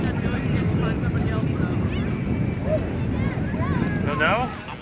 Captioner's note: people talking